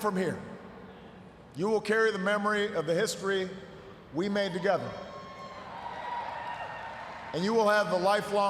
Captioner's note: cheers, applause